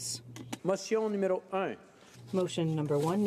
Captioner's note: speaking French